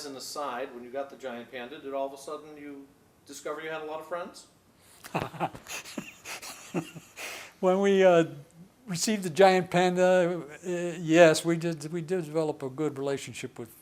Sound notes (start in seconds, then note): 5.0 laughs